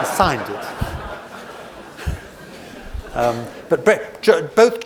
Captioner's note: audience laughs